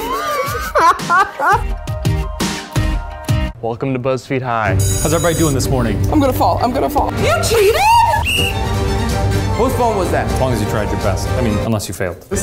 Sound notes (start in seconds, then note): 0.0 all laughing; 2.2 upbeat music; 7.8 whistle blowing